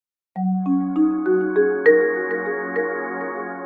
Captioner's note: gentle chimes